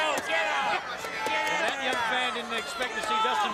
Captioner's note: crowd chatter